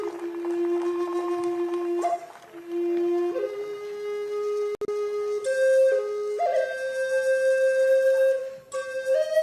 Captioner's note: applause